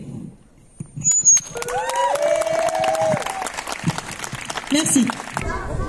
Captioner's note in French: applaudissements